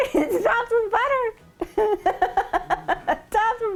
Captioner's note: laughing